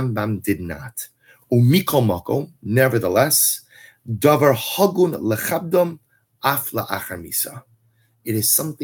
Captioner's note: Hebrew